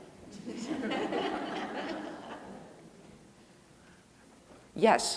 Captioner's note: audience laughing